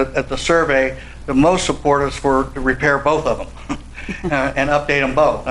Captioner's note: chuckles